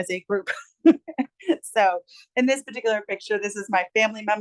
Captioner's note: chuckles